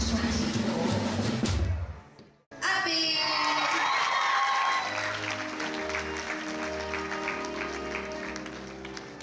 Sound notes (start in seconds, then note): 0.1 drum roll; 3.2 everyone cheering; 4.6 triumphant music